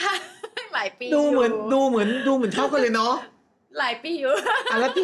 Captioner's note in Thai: เสียงหัวเราะ